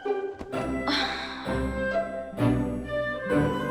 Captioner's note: sighs